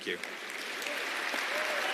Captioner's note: applause